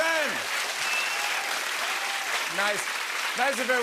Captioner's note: applause